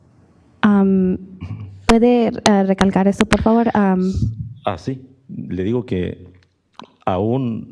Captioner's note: speaks Spanish